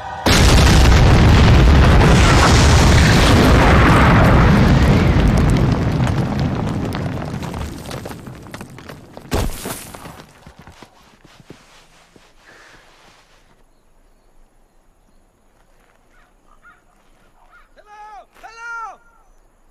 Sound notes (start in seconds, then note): 0.2 loud explosion; 9.1 rock hit